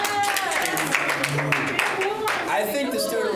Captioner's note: applause